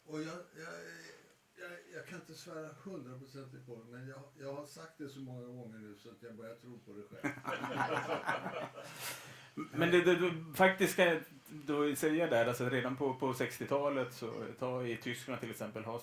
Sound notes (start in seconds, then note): 7.1 laughter